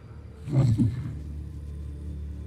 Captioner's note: growls